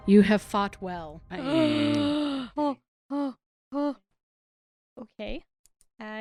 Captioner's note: gasp